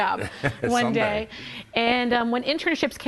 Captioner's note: laughs